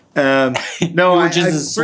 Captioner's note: chuckles